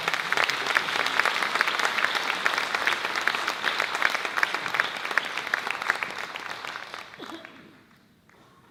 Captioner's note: audience claps